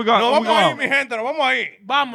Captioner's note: speaking In Foreign Language